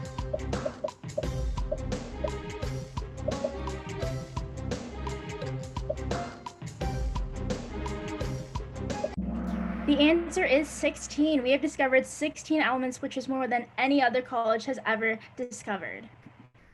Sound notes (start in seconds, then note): 9.1 gong